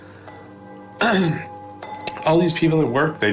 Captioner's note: clears throat